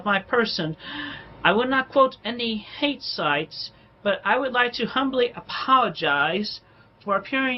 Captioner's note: inhales sharply